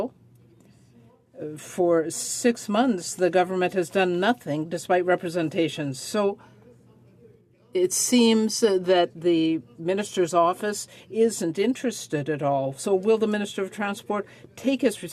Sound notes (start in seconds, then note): none